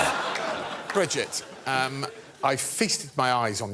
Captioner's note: laughter